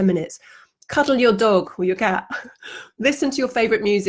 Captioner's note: she laughs